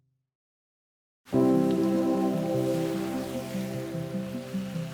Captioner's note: rain pouring